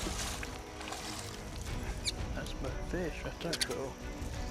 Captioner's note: splashing